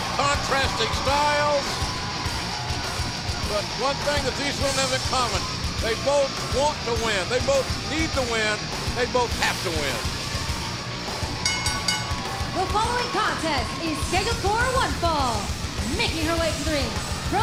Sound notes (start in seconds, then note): 11.4 bell ringing